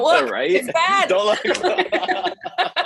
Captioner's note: laugh